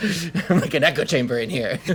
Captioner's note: laughing